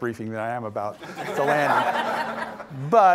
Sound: audience laughing

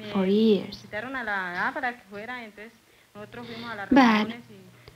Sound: family planning meeting, speaking Spanish

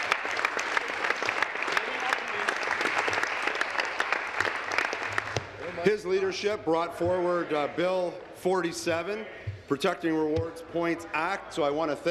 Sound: applause

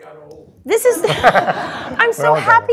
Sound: laugh

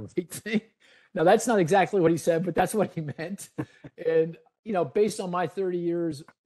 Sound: laughing

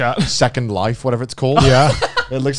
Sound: laughing

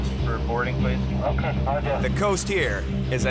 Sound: man Over Radio

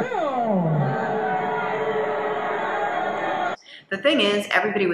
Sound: audience cheers

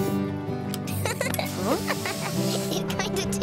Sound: laughs

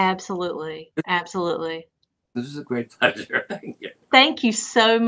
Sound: laughter

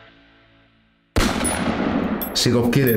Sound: bullet sound

